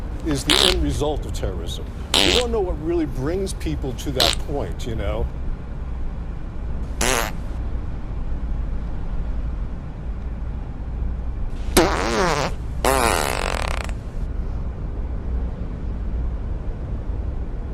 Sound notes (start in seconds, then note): 7.6 passengers farting sparsely